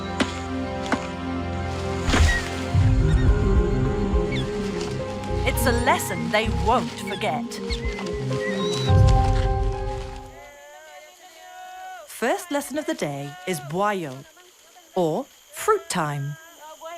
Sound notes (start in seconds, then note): 0.2 dramatic music; 2.1 orangutans squeaking; 7.8 dramatic music; 10.4 babysitters shouting; 16.7 babysitters shouting in foreign language